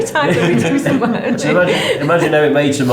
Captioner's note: laughing